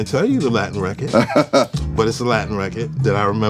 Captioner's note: laughs